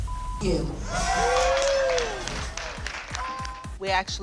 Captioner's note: applause